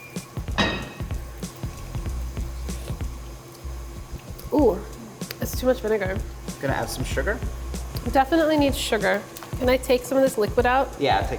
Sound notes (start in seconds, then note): 0.6 clang; 1.4 slurps